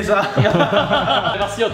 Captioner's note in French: rire